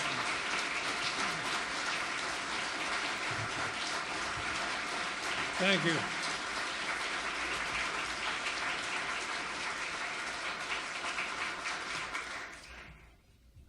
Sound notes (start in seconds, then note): 7.3 audience applauding